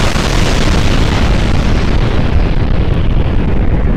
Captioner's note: explosion continues